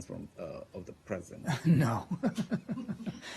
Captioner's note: laughter